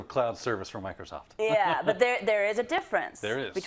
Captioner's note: laugh